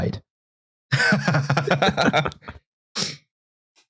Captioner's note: laughter